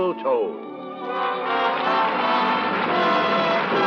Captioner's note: applause